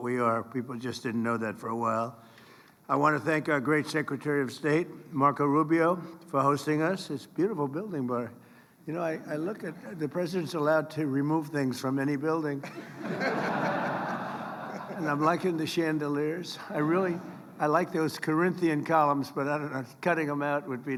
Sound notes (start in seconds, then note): 12.6 laughter